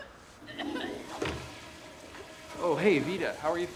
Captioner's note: Veda retching